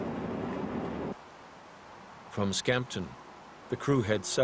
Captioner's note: voiceover